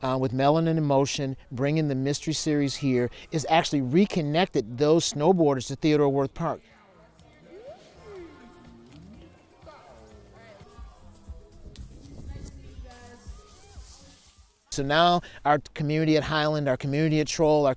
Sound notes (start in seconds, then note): 7.5 snowboarders chattering